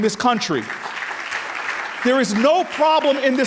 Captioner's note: audience applauding